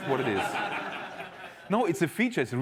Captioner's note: laughter